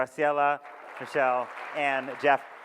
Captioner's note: audience claps